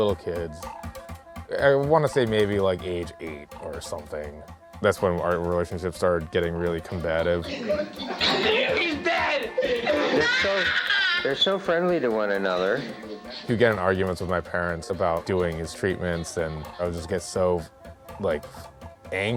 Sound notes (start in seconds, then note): 10.1 screeching